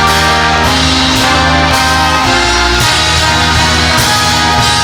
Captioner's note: audience applauding